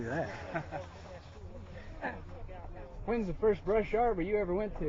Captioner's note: laughing